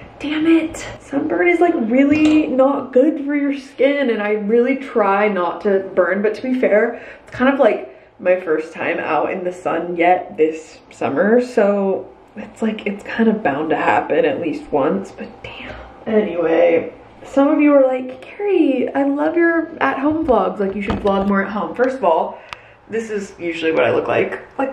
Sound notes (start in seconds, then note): 15.3 whisper